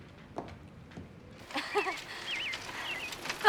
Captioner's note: Jen laughing